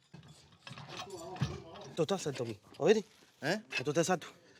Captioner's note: speaks Spanish